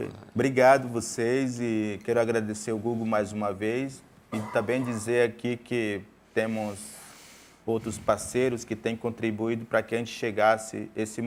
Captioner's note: speaking in portuguese